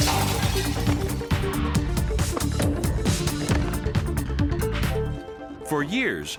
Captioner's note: glass shattering; skeleton thudding